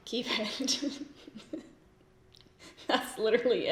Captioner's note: laughs